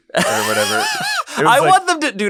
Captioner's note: laughter